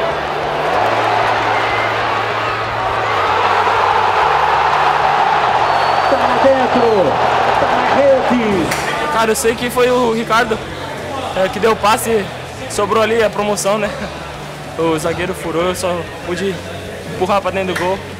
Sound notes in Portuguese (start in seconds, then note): 0.0 sons da torcida; 3.5 gritos de gol